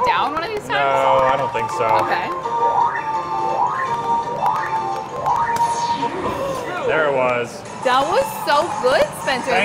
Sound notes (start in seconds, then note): 2.5 machine warbling; 3.1 lively music